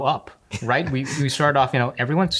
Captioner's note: chuckles